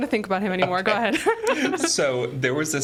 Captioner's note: laughing